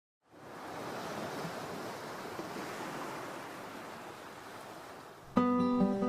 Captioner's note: waves crashing